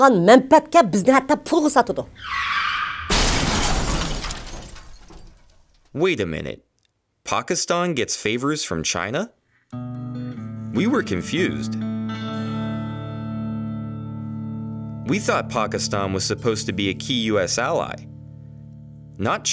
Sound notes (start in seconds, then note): 2.1 tires screech; 2.9 resounding crash